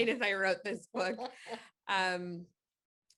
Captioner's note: chuckling